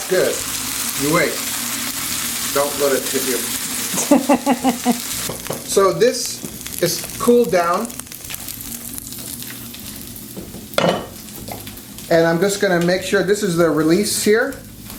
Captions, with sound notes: That's good, you wait. Don't let it kid you. (woman laughs) So, this is cooled down. And I'm just gonna make sure, this is the release here,